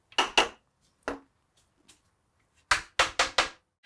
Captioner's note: hammer tapping